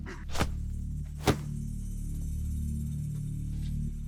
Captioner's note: smacking